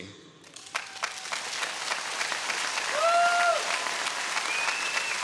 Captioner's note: audience cheering